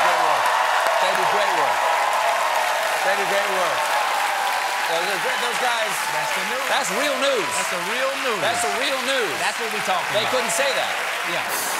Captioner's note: cheers and applause